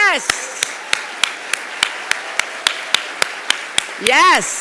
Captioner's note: applauding; audience applauding